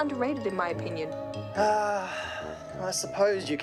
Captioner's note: sighs